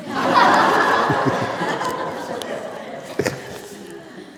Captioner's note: laughter